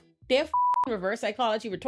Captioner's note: beep